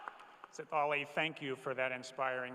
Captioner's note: cheers and applause